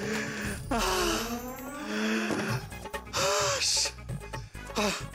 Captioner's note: sighs